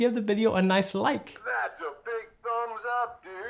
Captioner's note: electronic voice